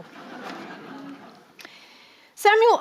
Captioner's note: audience laughing